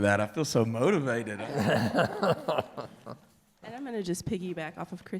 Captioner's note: crowd laughing